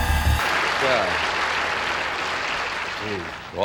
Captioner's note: audience clapping